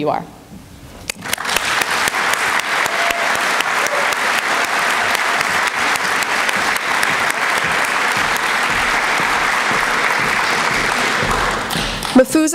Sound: applause

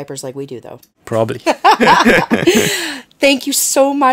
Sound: laughing

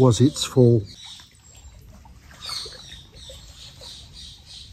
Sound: birds singing

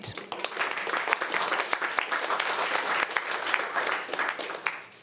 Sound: audience applauding

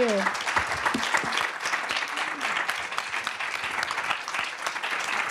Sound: applause

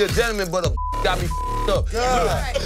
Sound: beep

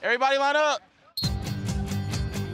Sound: whistle blows

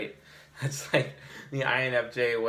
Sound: chuckles

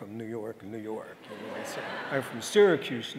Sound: audience laughing

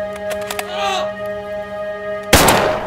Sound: pained scream

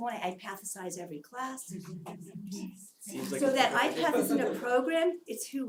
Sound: laugh

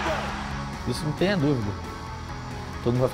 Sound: speaking Portuguese

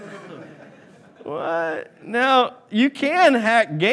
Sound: laughing

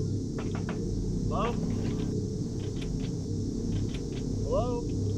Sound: door knocking

